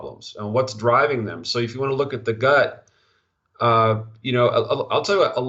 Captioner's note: stutter